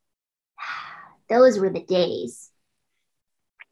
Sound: sighs

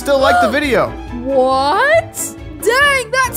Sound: gasping

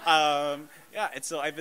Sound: laughter

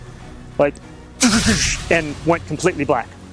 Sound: jet roaring

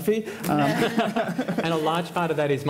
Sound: laughter

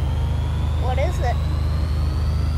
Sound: none

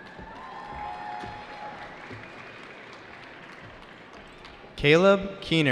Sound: cheering

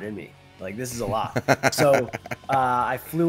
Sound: laugh

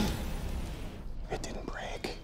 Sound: whispers

